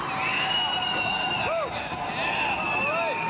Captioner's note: cheering